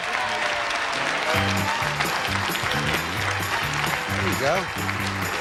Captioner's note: audience applauding